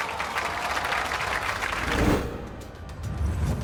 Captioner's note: audience awing; deep tense music